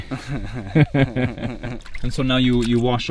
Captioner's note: laughing